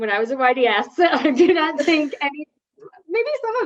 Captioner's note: laughs